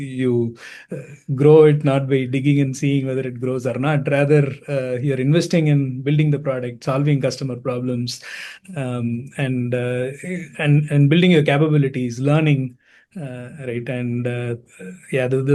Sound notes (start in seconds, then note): none